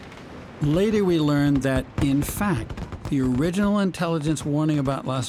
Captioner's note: voice-over